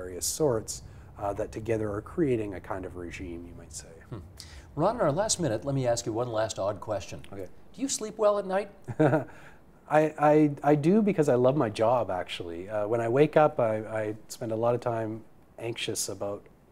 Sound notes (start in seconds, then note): 4.1 chuckles